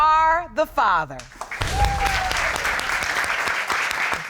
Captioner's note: crowd applauding